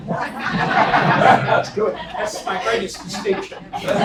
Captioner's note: laugh